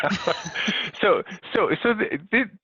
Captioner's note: panel members laughing